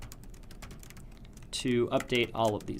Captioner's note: typing Noises